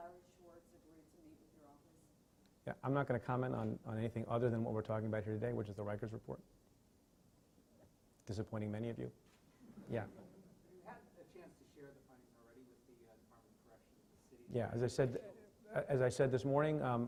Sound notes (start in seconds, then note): 9.8 laughing